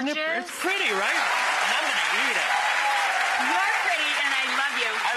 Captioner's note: audience cheering